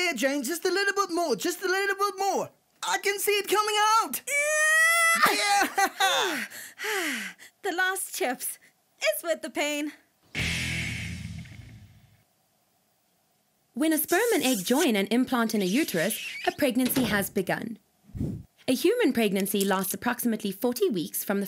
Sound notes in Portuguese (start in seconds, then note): 4.2 Gritos